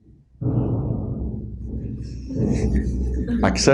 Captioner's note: loud banging in background